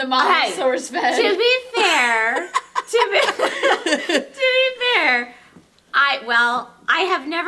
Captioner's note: laughs